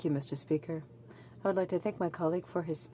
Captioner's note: speaking French